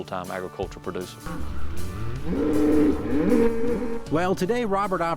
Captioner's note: cows mooing